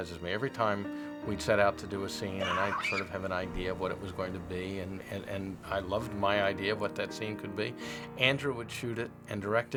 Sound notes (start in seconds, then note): 2.4 screams